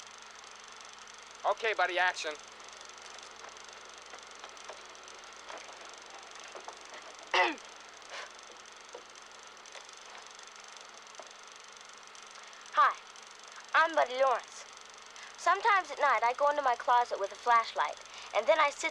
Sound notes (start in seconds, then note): 7.3 clears Throat